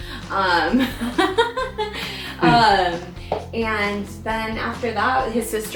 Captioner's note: laughs